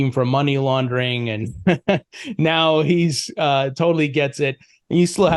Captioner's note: laughs